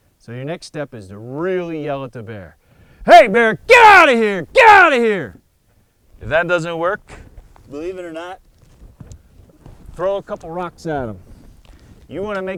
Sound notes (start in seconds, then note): 2.7 yells loudly